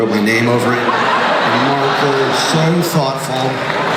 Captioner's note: crowd laughs